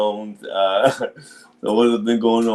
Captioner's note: chuckles